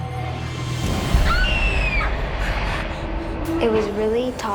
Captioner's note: screams